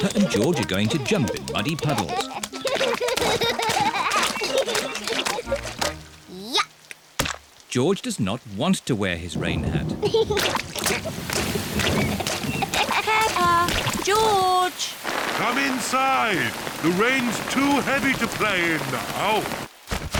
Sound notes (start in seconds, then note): 0.0 giggles; 2.9 both giggling; 9.3 thunder rumbling; 10.2 giggling